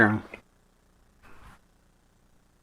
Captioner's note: none